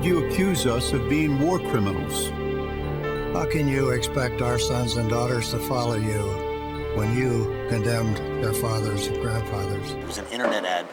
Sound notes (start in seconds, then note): none